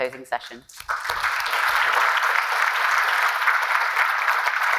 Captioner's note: attendees clapping